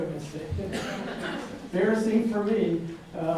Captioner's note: audience laughing